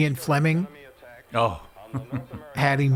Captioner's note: laughs